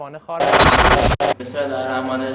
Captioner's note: buzzing noise